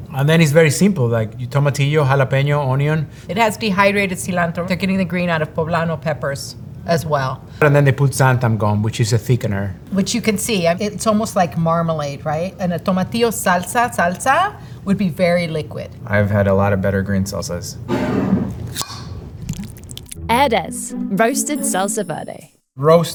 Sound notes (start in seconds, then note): 17.7 jar sliding; 18.7 lid opening; 18.8 salsa pouring